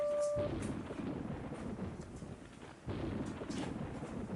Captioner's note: thunder; sound of thunder